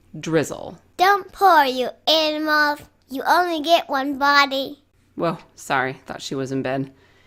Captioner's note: child's voice